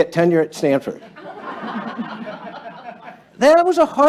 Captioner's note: laughter